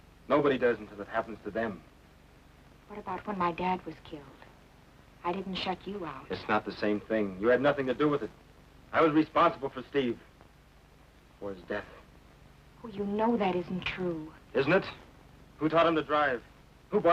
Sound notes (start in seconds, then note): none